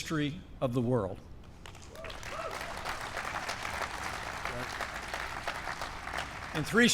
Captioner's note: applause